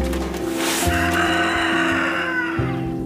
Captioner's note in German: Hahn kräht